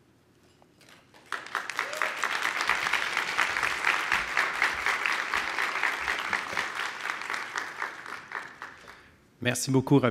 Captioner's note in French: applaudissements